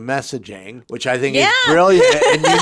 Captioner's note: laughs